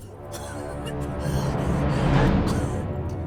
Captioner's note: coughing